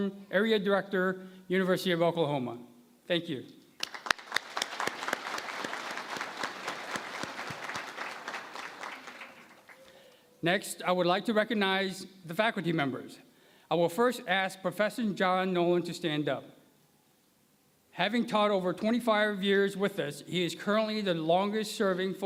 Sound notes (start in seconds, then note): 3.7 applause